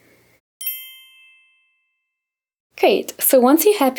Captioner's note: bell chimes